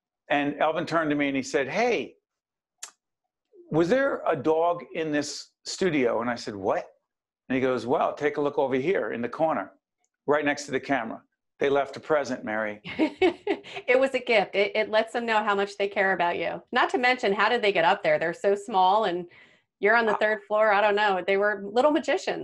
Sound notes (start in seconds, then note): 13.4 laughing